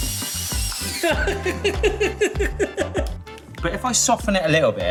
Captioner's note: laughs